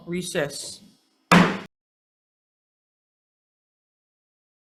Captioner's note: gavel taps